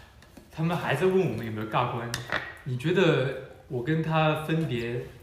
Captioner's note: none